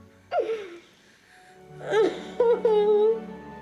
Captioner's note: Moon crying